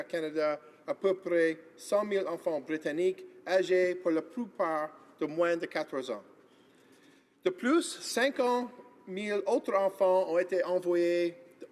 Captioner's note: speaking in French